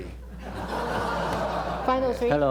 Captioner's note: laughter